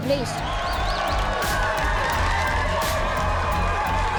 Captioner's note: cheering and applause